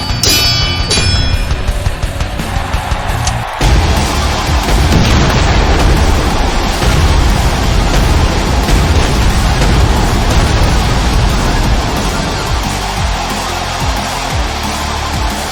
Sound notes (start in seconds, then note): 3.3 crowd cheering; 4.2 explosions booming; 4.2 gun firing